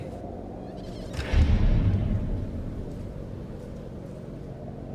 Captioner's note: door clangs